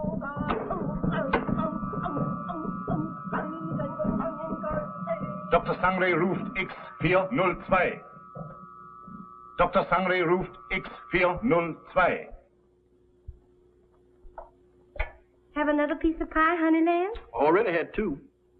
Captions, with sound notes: [ WHIRRING SOUND ] [ SPEAKS GERMAN ] [ SPEAKS GERMAN ] - Have another piece of pie, honey? - Already had two.